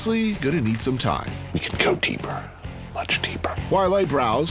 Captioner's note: whispering